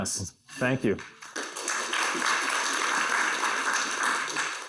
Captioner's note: applause